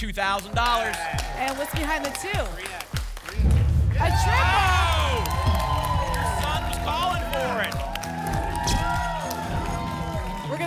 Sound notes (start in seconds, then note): 7.8 audience shouting numbers